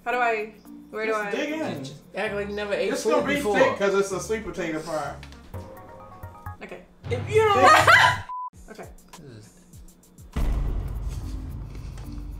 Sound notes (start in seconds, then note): 5.8 fast xylophone music; 7.6 laughing; 8.3 electronic beep; 10.2 soft dramatic music